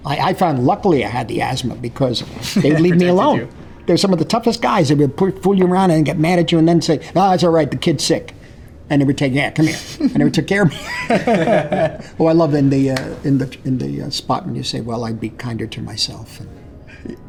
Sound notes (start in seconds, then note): 10.7 both laughing